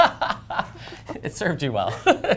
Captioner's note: laughter